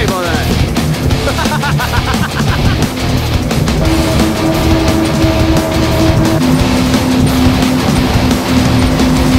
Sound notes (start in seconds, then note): 5.2 sound of boat engine